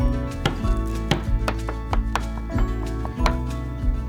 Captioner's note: bang bang bang bang